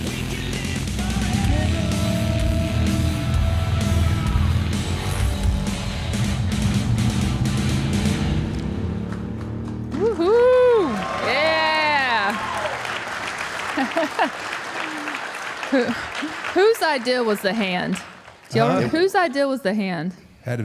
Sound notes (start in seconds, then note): 8.4 motorcycle roaring; 9.5 audience applauding; 11.5 audience applauding; 13.7 Michelle laughs